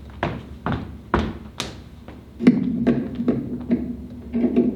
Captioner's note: footsteps